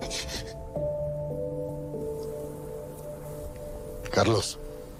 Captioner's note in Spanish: Sollozos